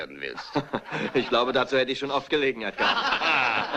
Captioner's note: all laugh